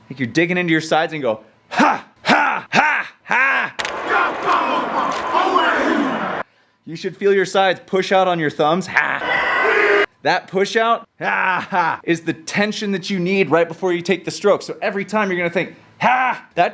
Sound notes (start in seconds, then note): 4.4 men chanting; 9.1 men yelling